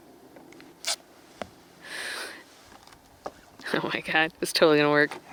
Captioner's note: tape ripping